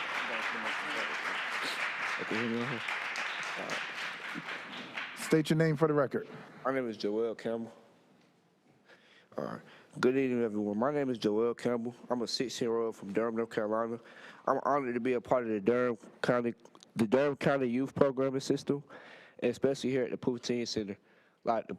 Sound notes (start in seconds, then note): 0.0 applause